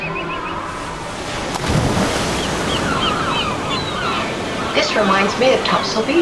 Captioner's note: waves crashing and seagulls squawking